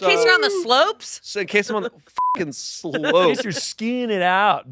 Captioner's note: beep